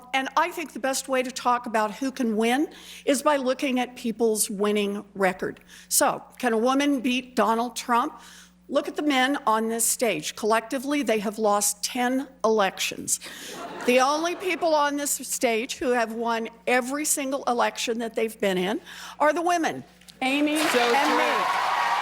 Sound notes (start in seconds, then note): 13.4 laughter; 20.4 cheering and applause